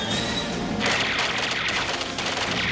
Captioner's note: gunfire